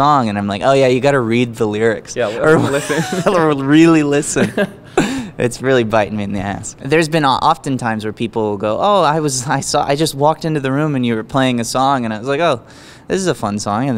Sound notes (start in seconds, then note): 2.2 laughs